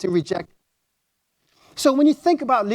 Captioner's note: audio drop